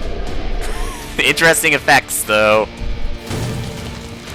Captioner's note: laughs